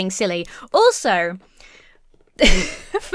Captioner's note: laughs